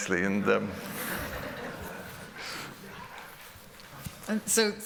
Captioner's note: laughter